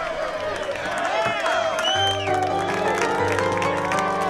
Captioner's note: applause